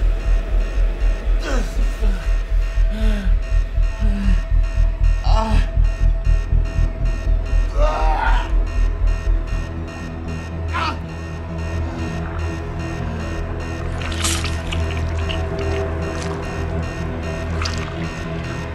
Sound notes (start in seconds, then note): 5.1 moaning and grunting; 8.7 alarm blaring continues; 8.7 obscure music; 11.1 alarm blaring continues; 11.1 obscure music; 13.9 flesh squelching